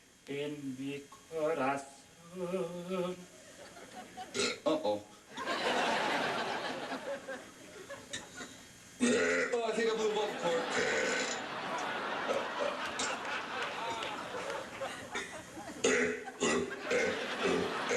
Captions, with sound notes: [ BURP ] UH-OH. [ BURP ] OH, I THINK I BLEW A VOCAL CORD. [ BURP ] [ BURPING CONTINUOUSLY ]